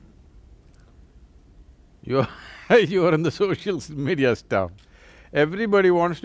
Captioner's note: laughs